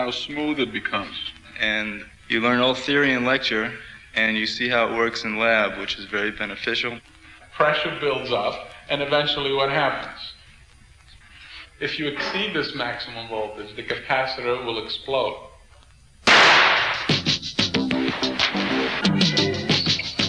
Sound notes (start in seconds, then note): 16.2 bang; 16.9 electronic music